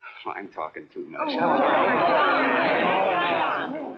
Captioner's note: chattering